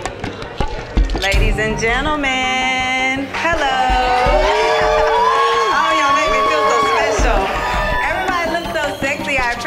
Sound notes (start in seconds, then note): 3.4 audience cheers